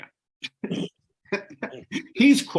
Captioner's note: laughing